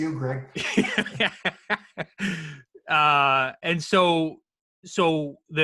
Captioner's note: laughs